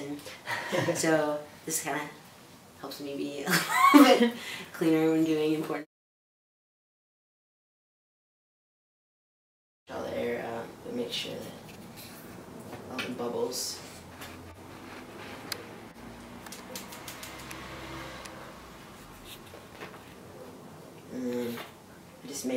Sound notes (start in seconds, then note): 3.5 laughing in background; 4.4 laughs